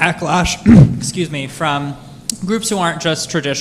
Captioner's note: clears throat